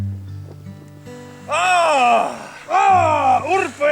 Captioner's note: masculine war cry